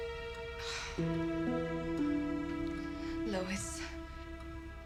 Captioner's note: sighs